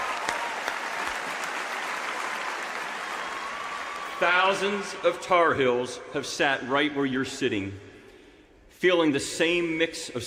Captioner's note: cheers and applause